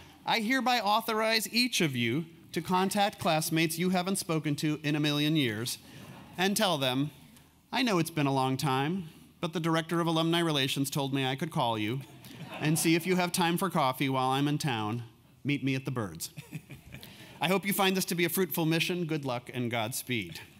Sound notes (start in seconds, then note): 16.4 laugh